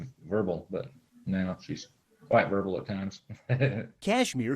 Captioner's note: laughing